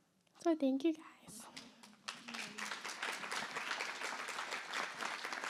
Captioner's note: applause